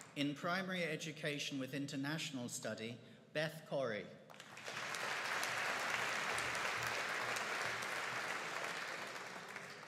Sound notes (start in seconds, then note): 4.4 audience applauding